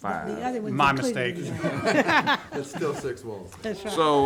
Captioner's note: all laughing